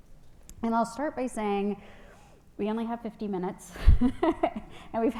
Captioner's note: laughs